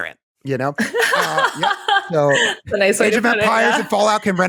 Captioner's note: laughter